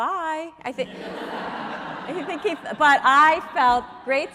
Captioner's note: audience laughing